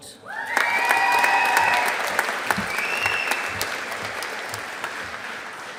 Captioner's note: audience applauding